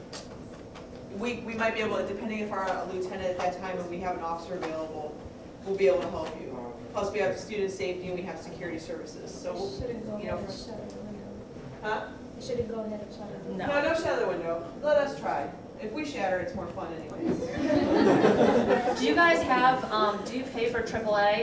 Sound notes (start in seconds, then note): 17.3 audience laughs